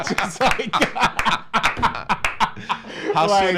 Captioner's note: laughs